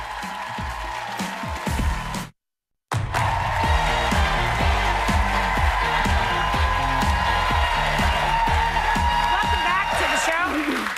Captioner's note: cheers and applause